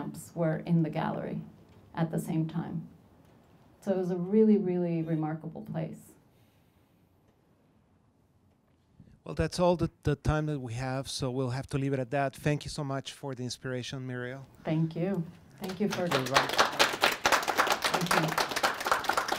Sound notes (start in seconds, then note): 9.3 voiceover; 15.6 applause